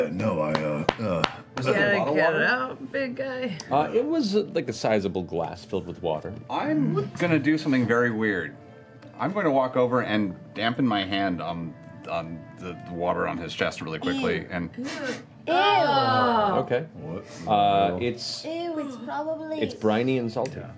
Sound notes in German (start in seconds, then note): 14.9 schnüffelt